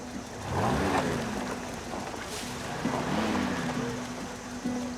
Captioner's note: engine revving